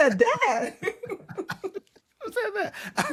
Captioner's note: laughter